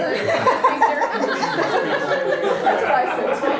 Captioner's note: laughter